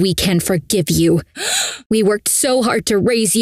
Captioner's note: Fiona gasps